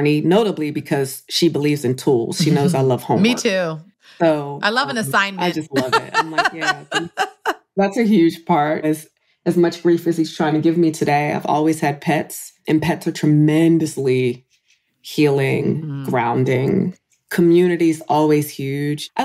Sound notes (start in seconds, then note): 5.3 laughs